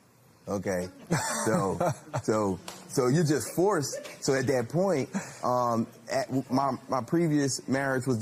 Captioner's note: laughs